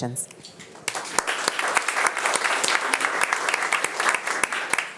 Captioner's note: attendees applauding